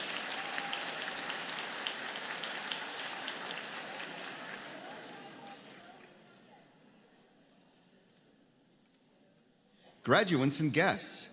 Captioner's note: applause